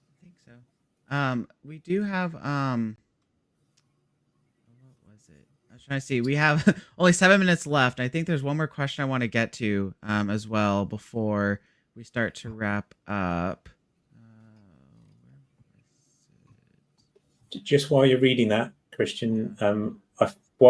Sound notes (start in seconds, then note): 15.5 speaks faintly